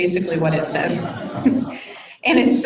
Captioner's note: people laugh